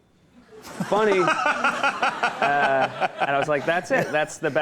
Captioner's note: Conan laughs